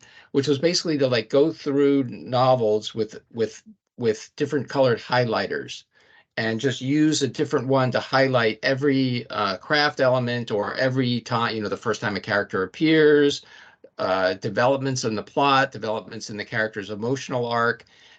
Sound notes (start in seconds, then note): none